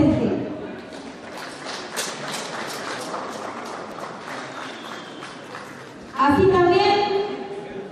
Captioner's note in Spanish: Aplausos del publico